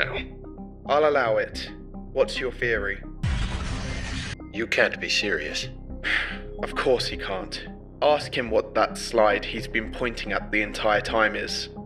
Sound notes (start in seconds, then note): 6.0 sighing